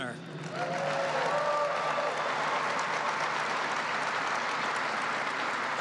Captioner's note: applause